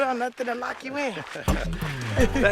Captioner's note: laughter